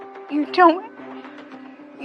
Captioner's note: chokikingng up